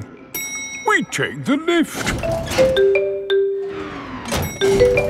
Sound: elevator dings

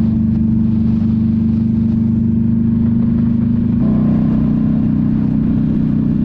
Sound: engine roaring

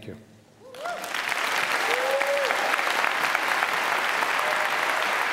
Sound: applause

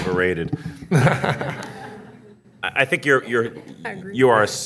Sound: audience laughing

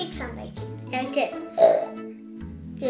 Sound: oink oink

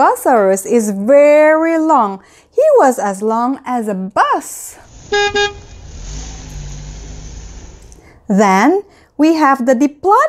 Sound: bus horn

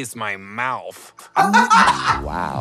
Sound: Trixie laughs

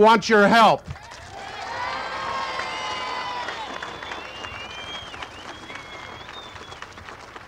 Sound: crowd cheering and applauding

